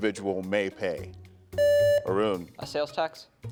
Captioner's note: buzzer beeps